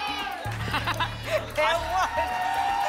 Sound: laughter

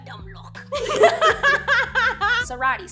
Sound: both laughing

